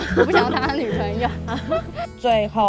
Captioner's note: laughs in family trauma